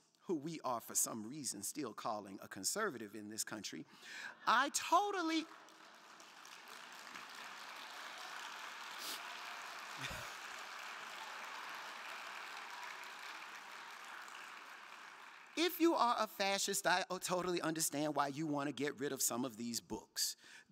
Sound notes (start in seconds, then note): 6.0 crowd clapping